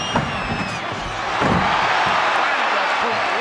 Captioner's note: audience cheering